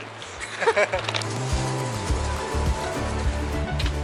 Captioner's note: laughing